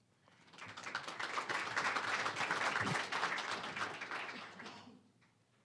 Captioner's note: applause